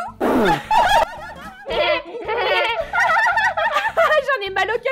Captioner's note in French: rires